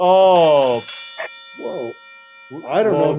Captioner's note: bell ringing